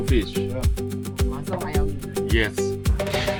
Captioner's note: Cantonese